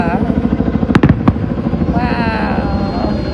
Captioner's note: chopper rumbling; fireworks booming